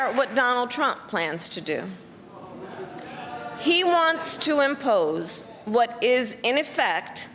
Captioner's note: applause